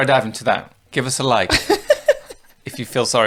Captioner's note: laughs